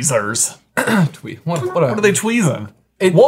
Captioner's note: clearing throat